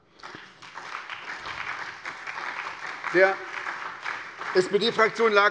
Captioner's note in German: Beifall bei der SPD und dem BÜNDNIS 90/DIE GRÜNEN